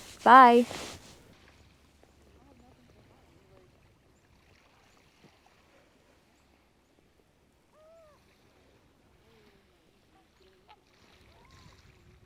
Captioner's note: gentle waves splashing and nature sounds